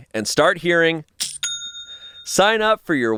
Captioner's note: cash register rings